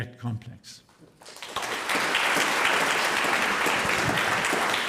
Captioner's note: audience applauding